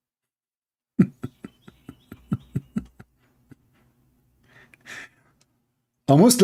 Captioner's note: Ketawa